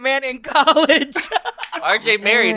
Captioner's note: laughs